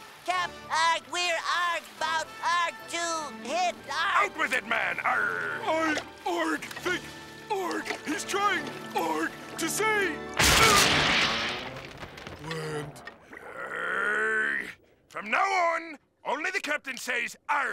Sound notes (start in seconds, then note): 10.3 crashing